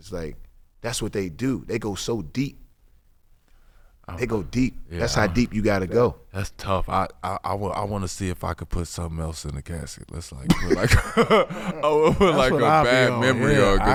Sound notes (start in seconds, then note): 10.5 laughing; 10.5 laughs